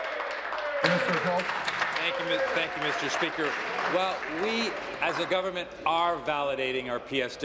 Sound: applause

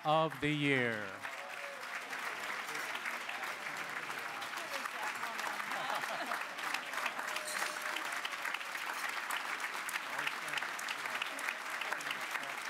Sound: applause

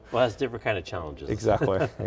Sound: laughs

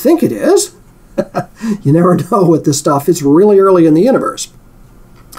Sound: laugh

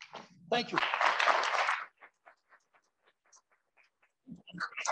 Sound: applause

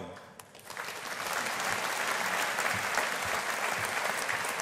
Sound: audience applauding

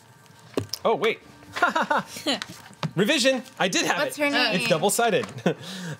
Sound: laughs

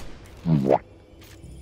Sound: boo-womp Sound effect

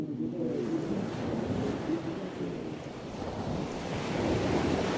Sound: gentle ocean waves

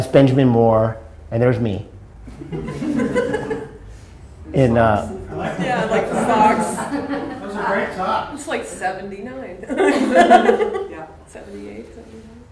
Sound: audience laughing

